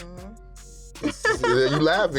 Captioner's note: chuckles